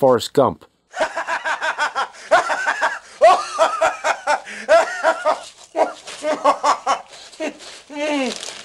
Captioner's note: TV Game Guy laughs maniacally